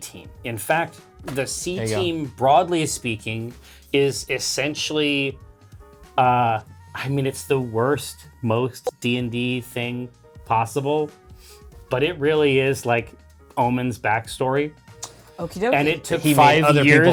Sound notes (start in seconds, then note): none